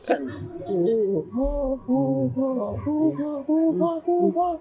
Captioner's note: laughs; make chimpanzee sounds